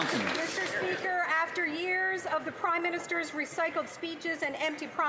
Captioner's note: some Applause